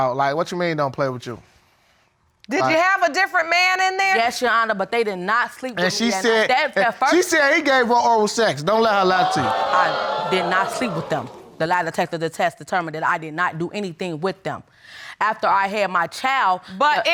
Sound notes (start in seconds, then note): 9.0 audience exclaiming